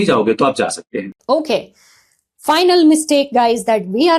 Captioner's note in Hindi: नाक से की जाने वाली आवाज़